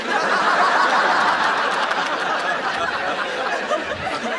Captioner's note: audience laughs